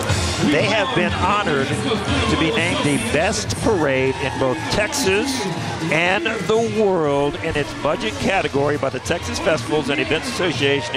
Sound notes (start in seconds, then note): none